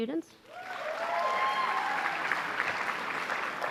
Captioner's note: applause